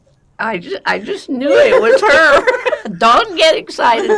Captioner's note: laughing